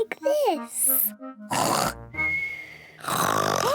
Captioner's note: snores loudly; lady pigs gasp